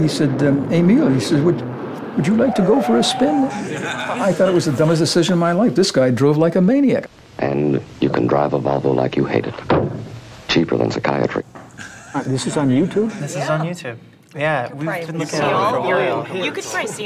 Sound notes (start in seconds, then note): 3.4 laughter; 9.6 thump; 11.8 people laugh; 14.6 many chattering voices